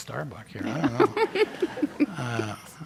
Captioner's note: chuckles